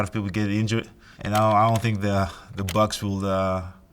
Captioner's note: keyboard clicking